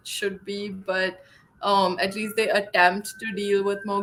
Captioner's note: sirens wailing